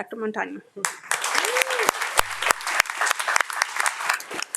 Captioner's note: audience applauding